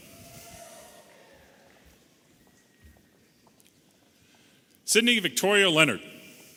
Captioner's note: audience applauding and cheering